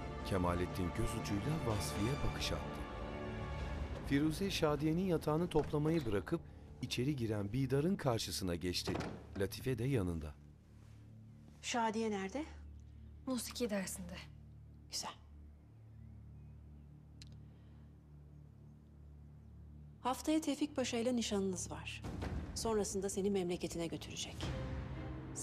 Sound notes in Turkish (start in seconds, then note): 0.1 Müzik - Gerilim; 8.8 Kapı kapanma sesi